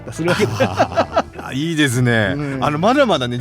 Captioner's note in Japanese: 笑い